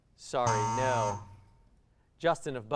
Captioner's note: buzz